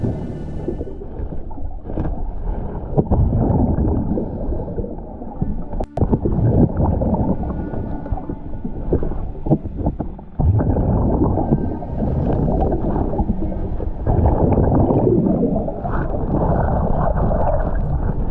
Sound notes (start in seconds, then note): 3.3 suspenseful music continues; 3.3 water bubbling